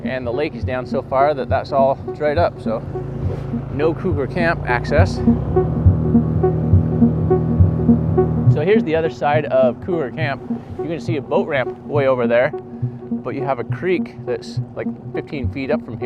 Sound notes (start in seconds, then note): 5.1 engine buzzing; 5.1 suspenseful music